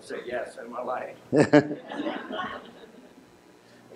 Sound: laughter

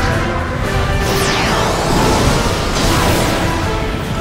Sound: powers up, fires

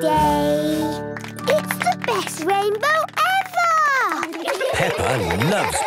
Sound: laughter

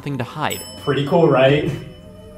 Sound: elevator ding

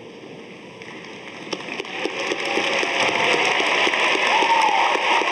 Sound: audience applauding

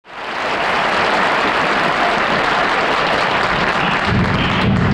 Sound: audience applauding

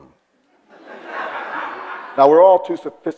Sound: audience laughs

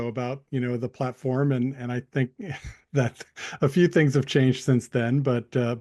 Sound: chuckles

